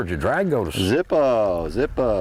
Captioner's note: laughter in the back ground